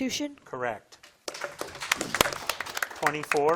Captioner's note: audience applauding